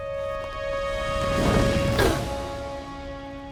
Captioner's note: grunting